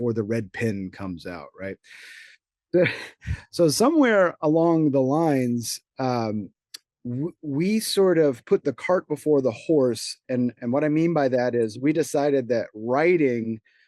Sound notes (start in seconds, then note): 2.7 chuckles